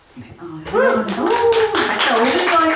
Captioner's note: applause